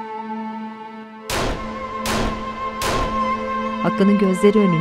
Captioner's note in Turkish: Silah sesleri